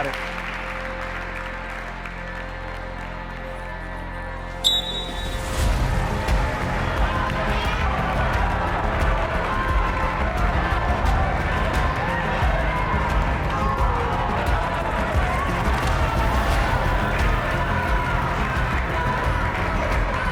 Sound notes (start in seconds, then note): 0.2 gentle suspenseful music; 4.6 whistle blows; 6.4 audience shouts and applauds; 6.4 tense suspenseful music; 15.5 audience shouts and applauds; 15.5 tense suspenseful music